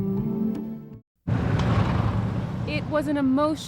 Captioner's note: engines rumbling